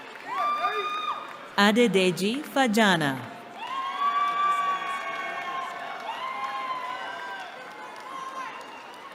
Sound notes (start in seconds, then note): 3.4 cheering